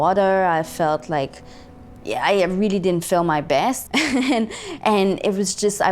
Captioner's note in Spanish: risas